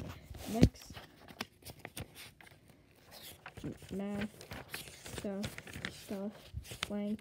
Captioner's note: random silence